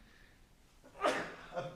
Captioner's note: sneezes